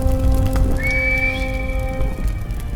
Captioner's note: whistles